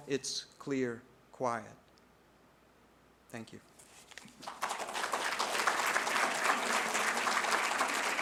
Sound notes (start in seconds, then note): 4.3 applause